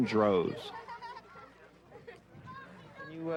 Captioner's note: children giggling; children chatting